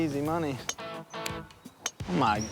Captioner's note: crack of the club